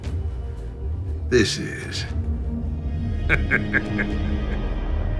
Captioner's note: laughs